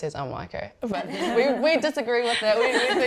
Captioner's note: laughter